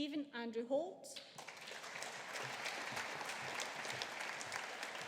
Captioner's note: audience applauding